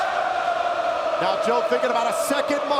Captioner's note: crowd cheering